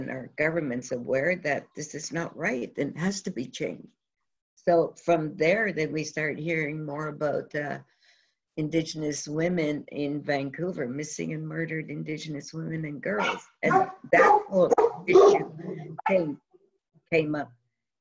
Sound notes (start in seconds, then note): 13.6 dogs bark